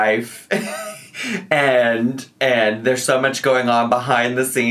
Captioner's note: laughs